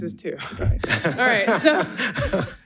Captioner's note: audience laughing